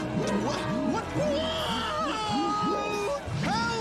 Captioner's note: screaming